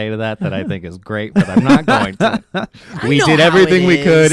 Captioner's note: laughing